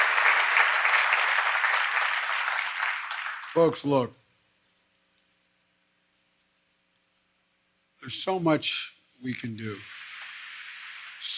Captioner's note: applause